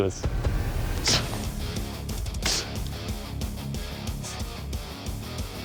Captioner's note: impact sounds